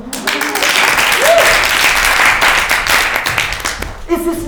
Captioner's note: crowd applauding